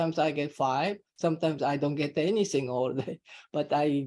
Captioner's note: chuckling